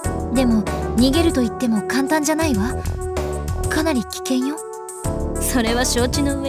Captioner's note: none